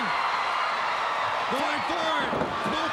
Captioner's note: crowd cheering